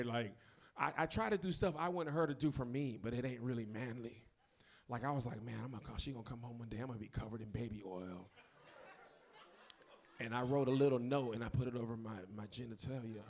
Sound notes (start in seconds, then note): 8.4 audience laughs